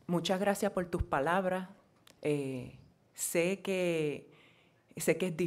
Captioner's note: speaking in foreign language